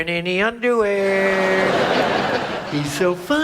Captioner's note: audience laughs